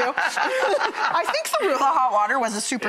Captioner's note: laughing